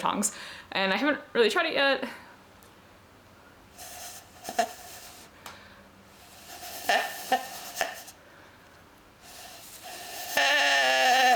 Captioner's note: moose sound?